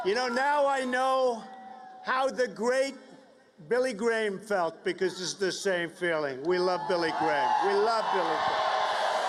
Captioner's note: cheers and applause